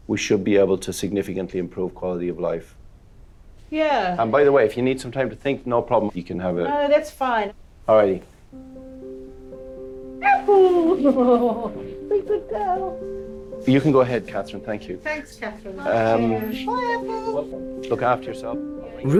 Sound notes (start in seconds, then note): 8.9 somber music; 10.2 laughs; 10.2 Apple barking